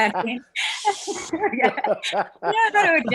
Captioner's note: laughs